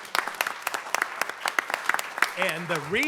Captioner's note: audience clapping